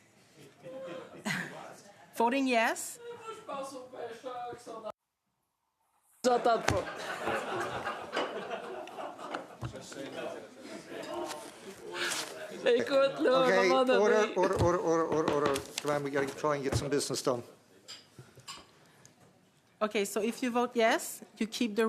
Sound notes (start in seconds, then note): 10.7 laughter